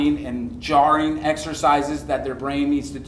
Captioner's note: none